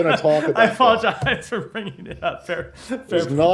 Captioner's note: laughter